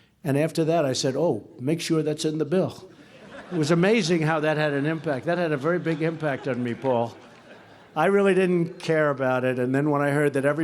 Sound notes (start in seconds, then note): 3.0 laughter